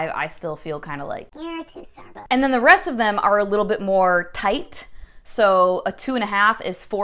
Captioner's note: high pitched chipmunk voice